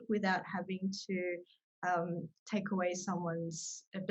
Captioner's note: none